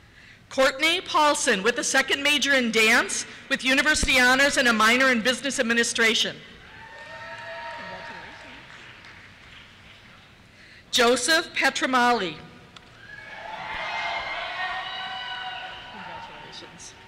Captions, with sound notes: Courtney Paulsen, with a second major in Dance, with University Honors, and a minor in Business Administration. (cheers) Congratulations. Joseph Petramale. (cheers) Congratulations.